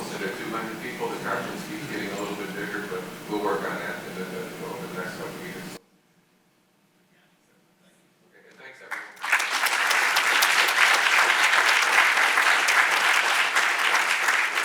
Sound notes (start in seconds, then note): 8.8 audience applauding